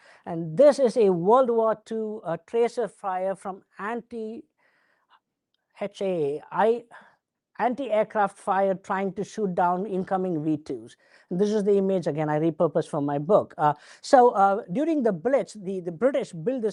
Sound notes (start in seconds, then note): none